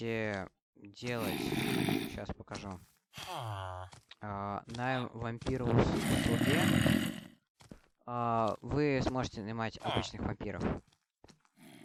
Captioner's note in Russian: фыркает